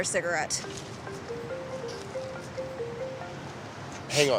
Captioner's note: phone rings